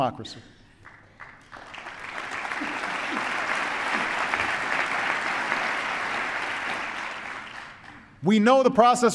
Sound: applause

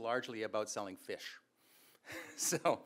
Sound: chuckles

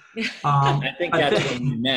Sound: laughs

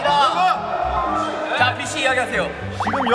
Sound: gets the chance to speak with his loud voice

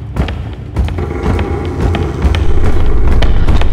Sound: door opening; rapid tapping sound

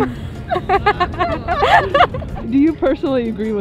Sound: person laughing

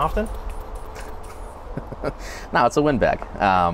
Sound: laughs

